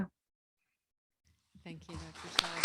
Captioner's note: applause